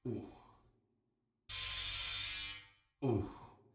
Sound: razor sound

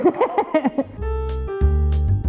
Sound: she laughs; bright piano music

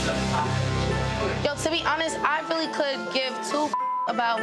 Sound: beep

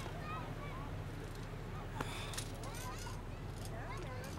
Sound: sighs

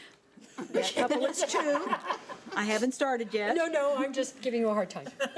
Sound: everyone laughing

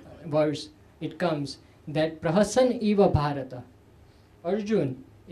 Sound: sanskrit

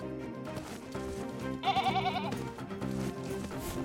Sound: adventure music; bleating in fear

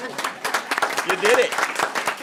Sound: applause

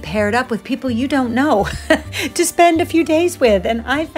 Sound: chuckles

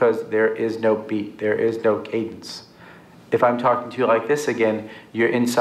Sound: no a robotic voice

